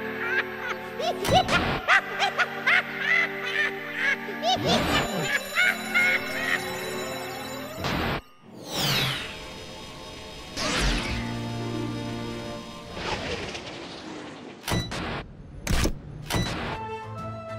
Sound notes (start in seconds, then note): 0.1 maniacal laughter; 4.3 alarm rings